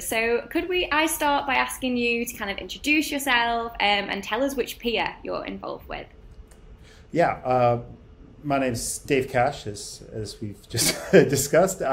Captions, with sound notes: So could we, I start, by asking you to kind of, introduce yourself and tell us which PIA you are involved with? - Yeah, my name's Dave Cash, (laughs) as we've just discussed.